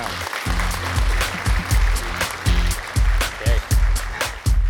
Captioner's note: audience clapping; energetic music